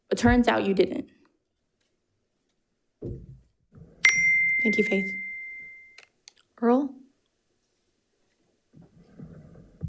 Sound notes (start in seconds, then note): 4.0 timer dings